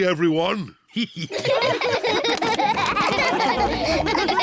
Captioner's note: all laughing